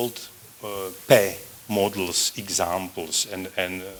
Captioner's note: non-english